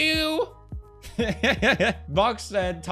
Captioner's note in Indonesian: glorious chuckle sent from the heavens to bless us with it's presence